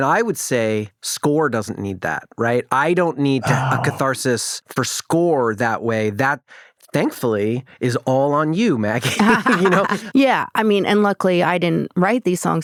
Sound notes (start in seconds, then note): 9.0 chuckles; 9.0 laughs